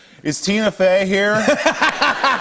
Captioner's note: laughter